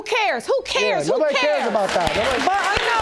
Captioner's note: audience applauding